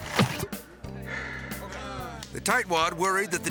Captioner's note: water plunges; person sighs; crowd softly cheering